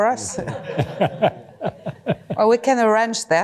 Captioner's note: laughter